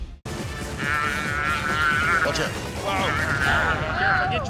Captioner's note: calf bellowing